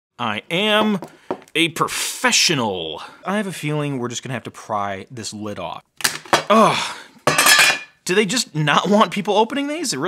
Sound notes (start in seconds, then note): 7.2 lid clanking